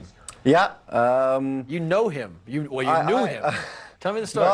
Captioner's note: laughter